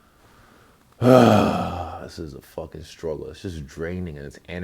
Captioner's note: sigh